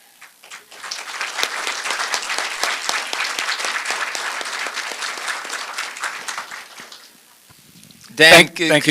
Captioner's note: applause